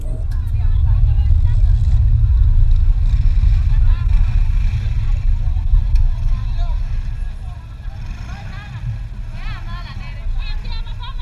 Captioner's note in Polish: dźwięki ulicy